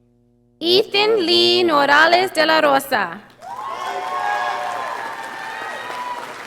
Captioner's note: audience applauding